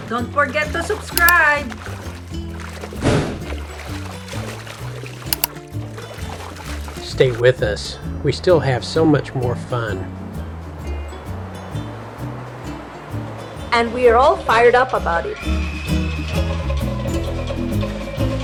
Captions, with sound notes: Don't forget to subscribe! Stay with us! We still have so much more fun! [Drumming & Applause] And we’re all fired up about it!